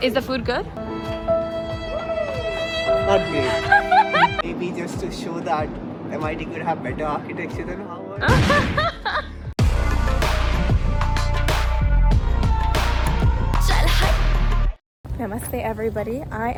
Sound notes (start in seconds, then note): 3.4 laughs